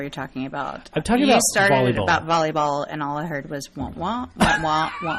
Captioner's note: DJ laughs